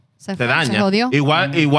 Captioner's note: speaking Spanish